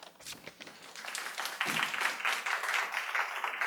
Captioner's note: audience applauds